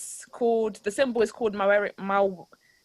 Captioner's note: in foreign language